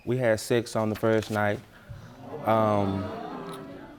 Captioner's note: audience murmuring